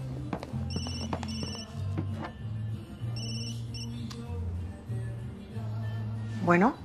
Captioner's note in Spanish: Suena el celular